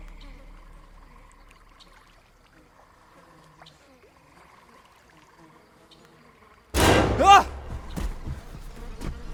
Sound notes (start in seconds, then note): 0.2 swarms of flies; 7.2 Ethan shrieks